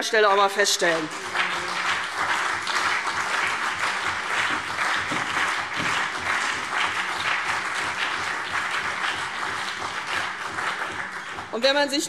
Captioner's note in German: Beifall CDU und BÜNDNIS 90/DIE GRÜNEN